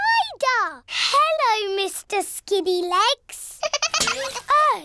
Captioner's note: giggling